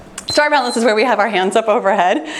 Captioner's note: timer beeps